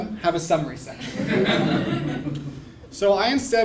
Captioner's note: laugh